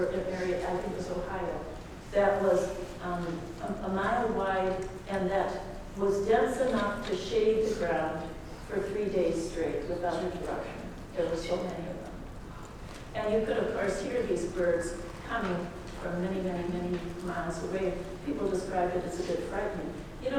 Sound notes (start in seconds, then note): none